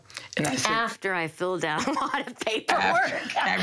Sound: laughs

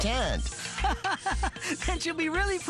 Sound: laughing

